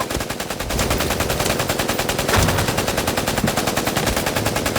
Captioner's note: machine gun firing